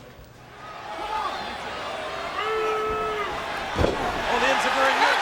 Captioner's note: audience cheering